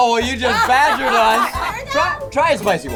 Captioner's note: laughter